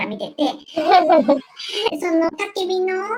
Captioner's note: laughs